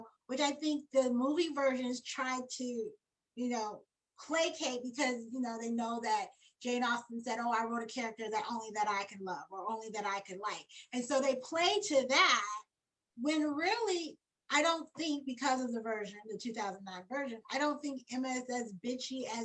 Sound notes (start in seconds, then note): none